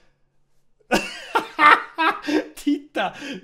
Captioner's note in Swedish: Intensivt skånskt skratt